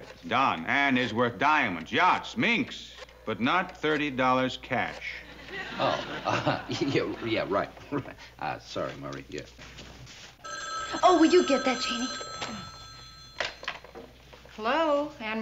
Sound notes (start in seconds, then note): 10.3 phone ringing